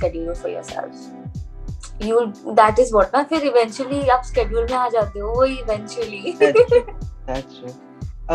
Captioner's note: laughs